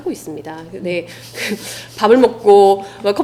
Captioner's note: laughs